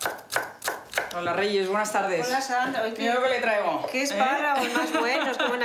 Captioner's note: speaking foreign language